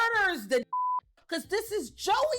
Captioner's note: beep